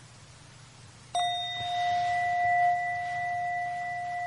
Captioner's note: bell chiming